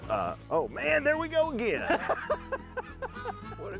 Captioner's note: laughs